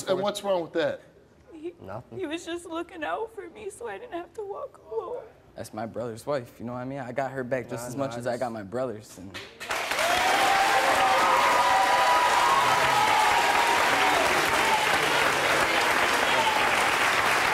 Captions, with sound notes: And what's wrong with that? - He was just looking out for me, so I didn't have to walk home. - That's my brother's wife, you know what I mean? I got her back just as much as I got my brother's. (audience applauds)